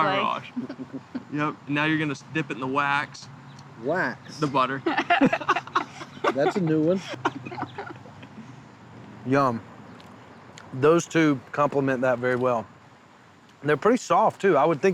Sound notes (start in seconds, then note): 4.6 laughter